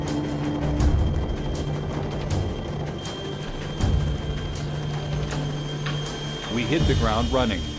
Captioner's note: sound of helicopter rotors